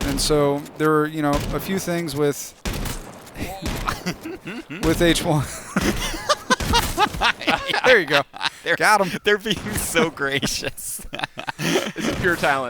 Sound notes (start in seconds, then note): 3.8 laughter